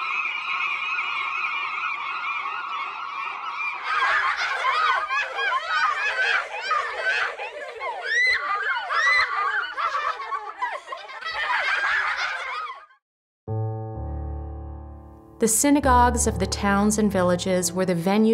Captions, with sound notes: [children laughing] The synagogues of the towns and villages were the venues